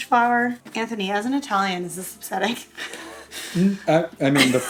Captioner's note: laughs